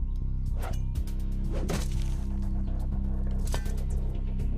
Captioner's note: knife thudding